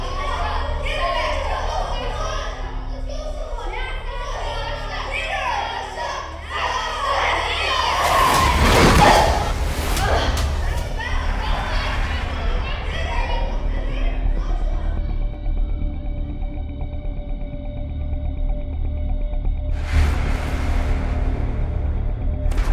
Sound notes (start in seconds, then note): 0.0 children groaning; 0.2 children chattering; 9.8 Sasha groans; 14.5 slow music